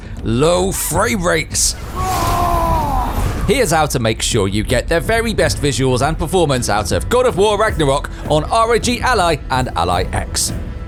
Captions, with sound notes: Low frame rates! *Kratos screaming in fury* Here's how to make sure you get the very best visuals and performance out of God of War Ragnarok on ROG Ally and Ally X